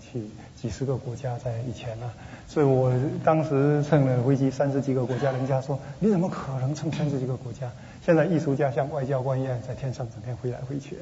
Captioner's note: speaking Mandarin